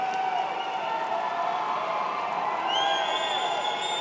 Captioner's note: cheers and applause